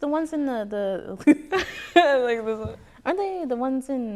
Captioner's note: chuckles